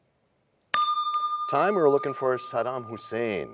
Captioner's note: bell rings, time expires